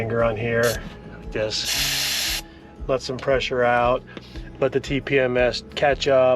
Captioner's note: tire hisses